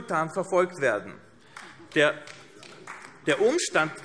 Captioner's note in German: Beifall AfD